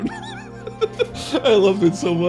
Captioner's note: laughs